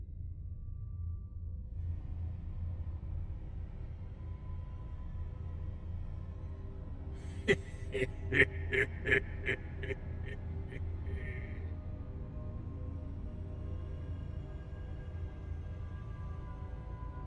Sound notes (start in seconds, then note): 7.3 leprechaun laughing